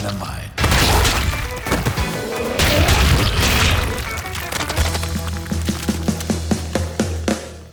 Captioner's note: energetic music continues; goo splatters